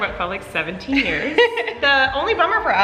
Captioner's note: laughing